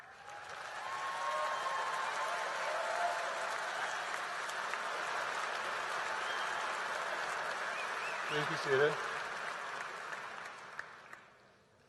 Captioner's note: applause